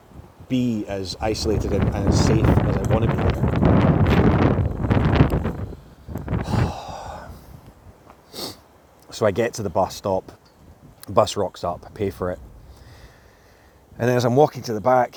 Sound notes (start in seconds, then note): 6.2 he sighs, yet again